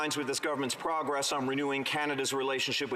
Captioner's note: some Applause